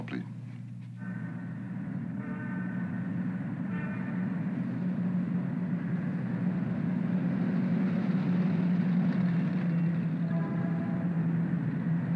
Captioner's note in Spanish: Sonidos de tráfico desde el exterior